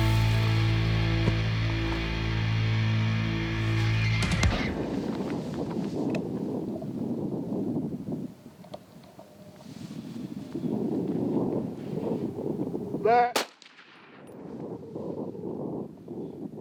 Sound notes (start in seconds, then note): 13.3 gun fires